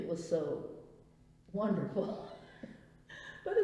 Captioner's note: laughs